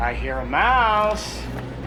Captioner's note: none